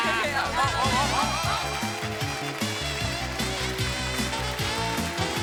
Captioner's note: cheers and applause